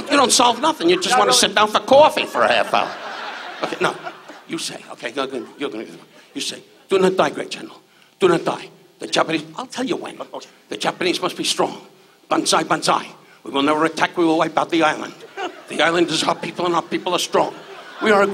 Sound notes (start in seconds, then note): 3.5 audience laughs